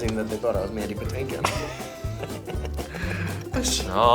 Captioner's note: Ben laughs